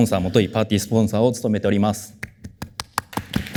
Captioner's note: applause